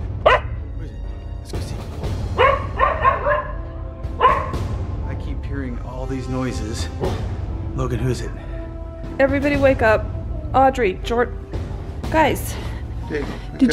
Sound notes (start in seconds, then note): 0.2 dog barks; 6.9 dog growls